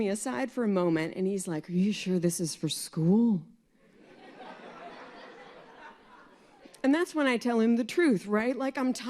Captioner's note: laughter